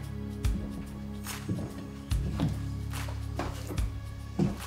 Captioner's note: footsteps thudding